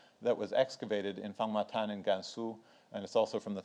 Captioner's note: speaks in foreign language